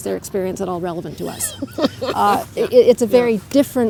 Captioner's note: laughter